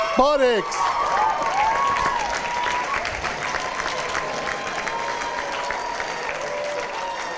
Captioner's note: cheers, applause